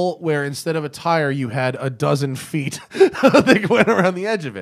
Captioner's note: laughter